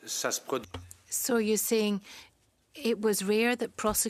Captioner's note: speaking in French